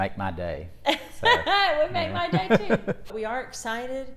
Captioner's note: laughs